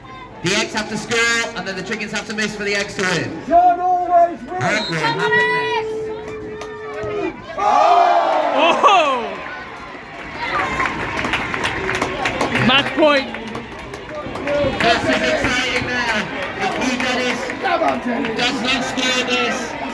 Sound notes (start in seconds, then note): 4.6 whistle blows; 10.1 applause